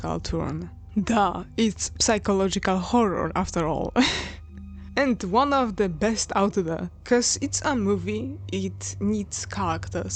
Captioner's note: chuckle